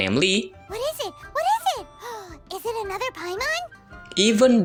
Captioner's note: gasp